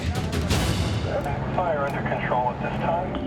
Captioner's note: man, over radio